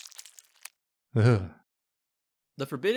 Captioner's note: gross squelching sounds; shudders